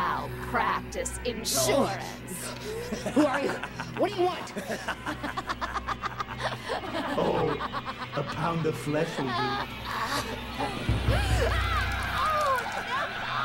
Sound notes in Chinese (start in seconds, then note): 4.8 全部大笑